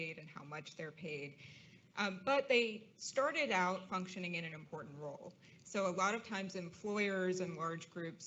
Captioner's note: none